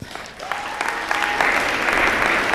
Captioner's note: applause